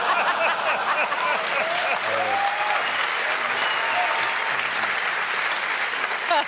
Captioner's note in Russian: смех; публика аплодирует